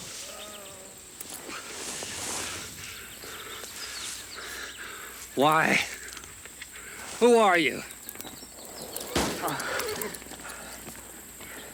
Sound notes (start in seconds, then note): 2.4 Anthony pants; 9.0 horse neighs